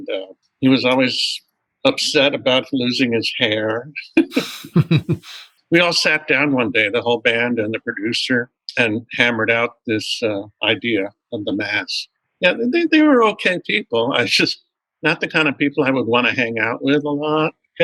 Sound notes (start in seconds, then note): 4.2 laughter